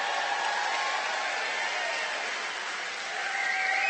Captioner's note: cheering and applause